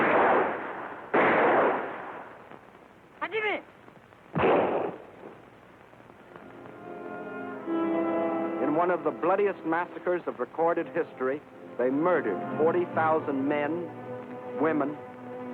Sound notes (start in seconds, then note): 0.0 gunshot; 4.3 gunshot; 4.3 non-english speech